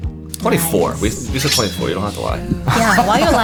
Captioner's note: sword swishing; laughter